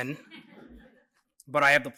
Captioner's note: laughter